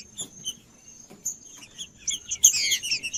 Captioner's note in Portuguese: trinca ferro cantando